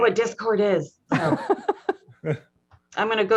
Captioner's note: all laugh